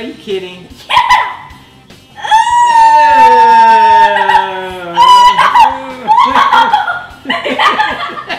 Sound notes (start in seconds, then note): 2.2 screaming; 3.6 giggling